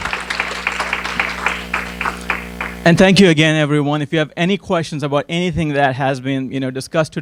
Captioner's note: applause